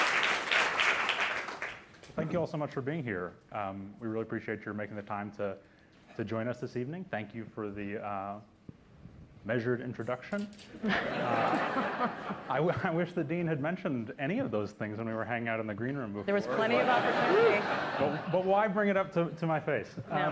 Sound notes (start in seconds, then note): 10.8 laughter; 16.4 laughter